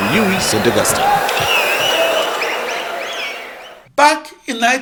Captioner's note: wild applause and cheering for 22 seconds